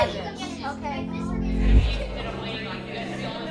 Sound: kids chattering

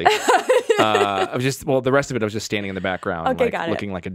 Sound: laughs

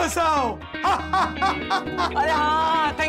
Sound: laughs

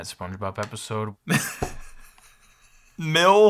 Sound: chuckles

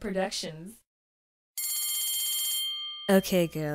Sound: bell rings

